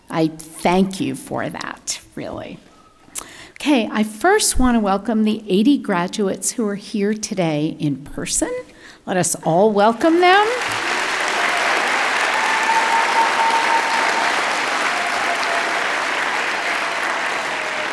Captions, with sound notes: I thank you for that, really. Okay, I first want to welcome the 80 graduates who are here today in person. Let us all welcome them. (audience clapping)